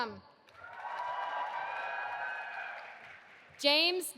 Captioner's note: audience applauding